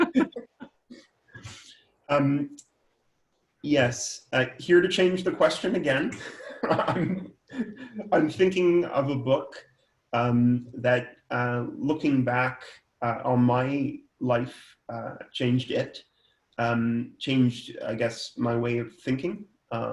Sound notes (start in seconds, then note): 0.0 both laugh; 6.0 laughs